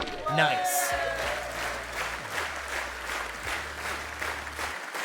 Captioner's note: audience claps